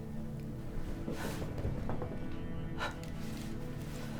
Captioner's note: light clattering; Linda gasping